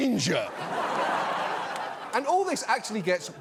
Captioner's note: laughter